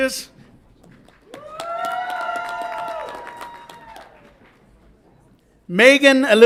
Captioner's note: audience applauds and cheers